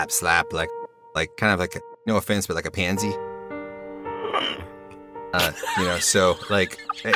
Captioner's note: ZYN gasps; laughs